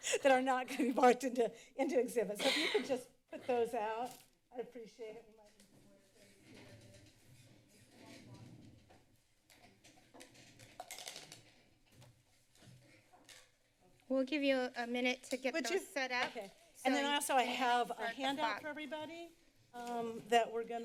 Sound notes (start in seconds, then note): 2.4 coughs